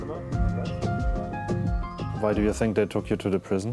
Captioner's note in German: englisch